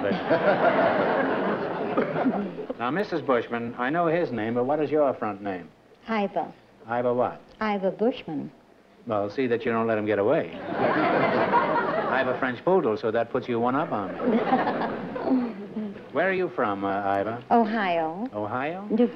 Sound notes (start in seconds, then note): 0.0 laughter; 10.6 laughter; 14.0 laughter